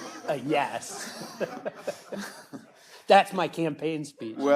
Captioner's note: all chuckling